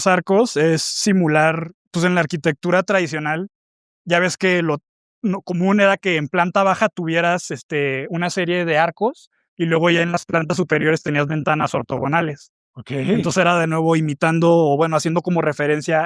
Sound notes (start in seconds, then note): 13.0 carraspeo